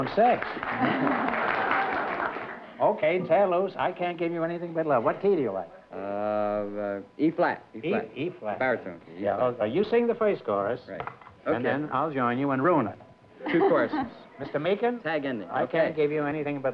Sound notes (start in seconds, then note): 0.0 applause; 0.6 laughter; 13.4 laughter